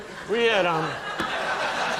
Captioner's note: audience laughing